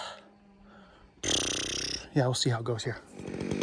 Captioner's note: blowing raspberries